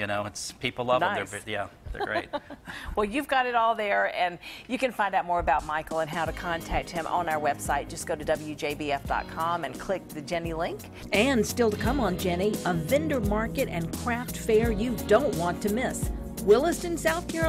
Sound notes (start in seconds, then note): 1.9 laughs